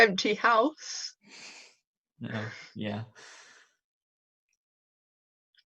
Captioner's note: laughing